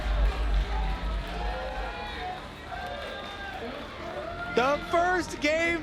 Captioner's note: cheering